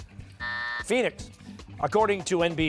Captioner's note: buzzer